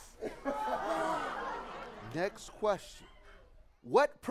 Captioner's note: laughs